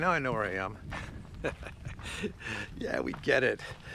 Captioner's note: laughing